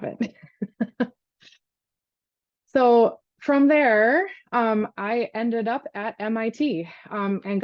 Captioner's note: laughs